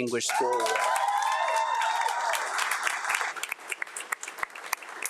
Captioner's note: audience applauding